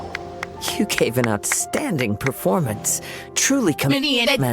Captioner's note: something's clapping